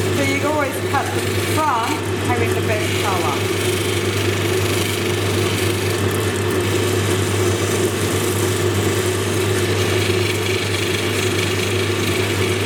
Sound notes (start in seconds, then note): 4.8 machine whirring; 9.5 stone grinding